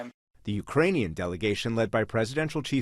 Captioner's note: voice-over